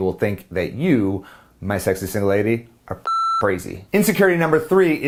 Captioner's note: beep